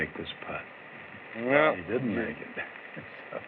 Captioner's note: chuckles